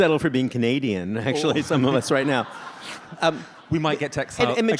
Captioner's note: audience laughs